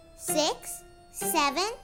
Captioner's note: none